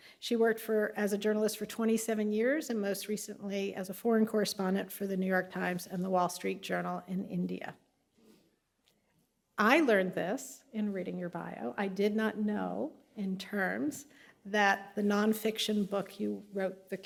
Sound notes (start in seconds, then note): none